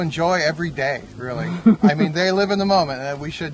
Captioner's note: woman laughs